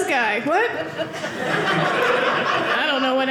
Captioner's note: audience laughing